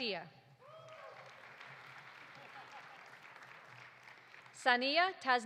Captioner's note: audience cheering; audience applauding